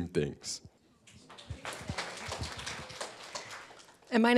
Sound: attendees clapping

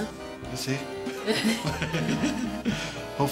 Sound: laughter

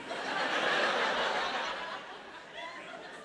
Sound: laughter

